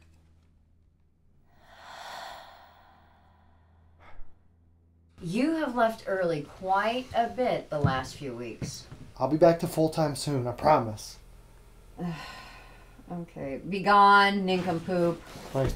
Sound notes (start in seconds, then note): 1.4 woman's breath; 4.2 sighs